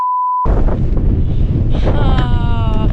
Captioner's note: wind